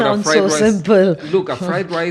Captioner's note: laughs